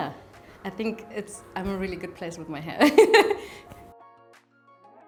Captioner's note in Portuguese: risos